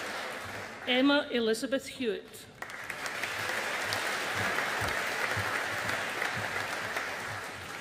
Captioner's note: audience applauding